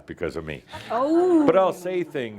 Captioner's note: some chuckles